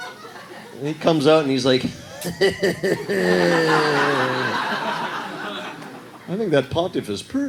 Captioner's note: raunchy laugh